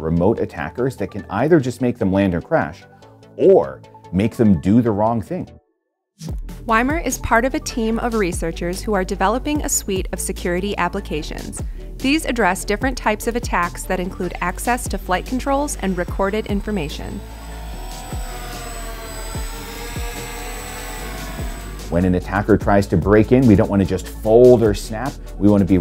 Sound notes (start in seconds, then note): 17.3 drone flying